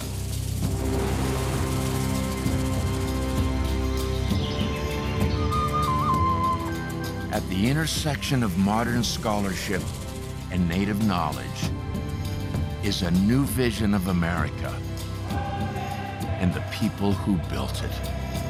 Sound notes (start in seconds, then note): 4.3 birds chirping; 4.4 flute playing